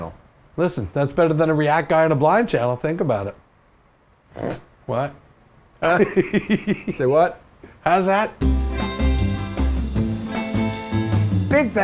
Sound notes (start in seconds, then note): 5.8 chuckling; 5.8 snorting chuckle; 8.4 happy music